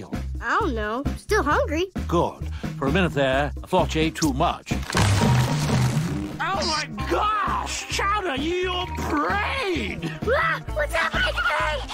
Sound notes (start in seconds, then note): 4.9 boom! boom! creak! creak!